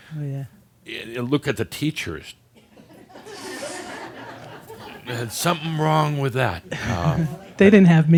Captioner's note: he makes a face, some chuckles; she chuckles